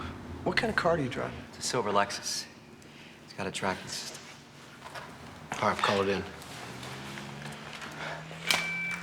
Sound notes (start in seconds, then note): 6.5 tires squealing